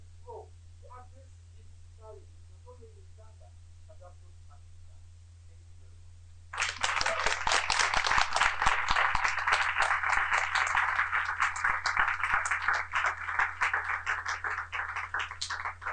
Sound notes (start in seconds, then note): 6.6 applause